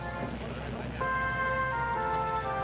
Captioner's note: radio tuning